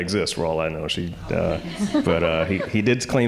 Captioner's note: audience laughing